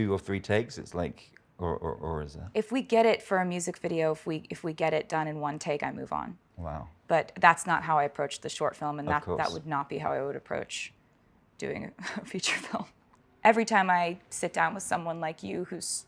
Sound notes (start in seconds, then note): 12.9 laughs